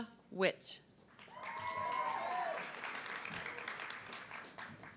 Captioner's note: audience clapping